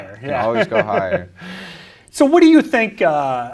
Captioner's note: giggles